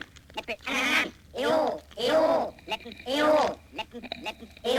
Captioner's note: mechanical vocalizing